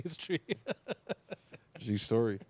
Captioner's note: laughing